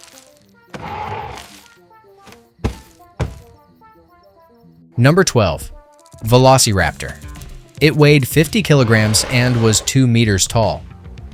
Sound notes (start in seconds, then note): 1.9 fridge door closes; 3.7 fridge door opens